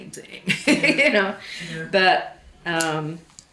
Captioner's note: laughs